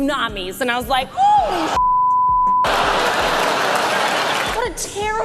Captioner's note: shocked laughter